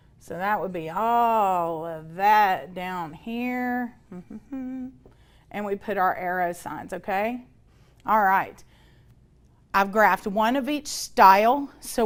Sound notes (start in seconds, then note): 4.0 humming